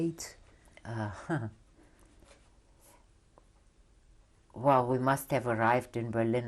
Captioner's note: laughs